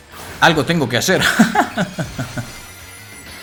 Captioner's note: laughs in impending doom